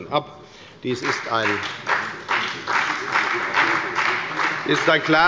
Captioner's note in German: Beifall bei der FDP und der SPD